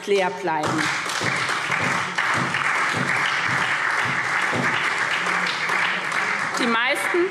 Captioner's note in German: Beifall SPD